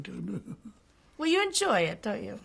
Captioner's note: laughs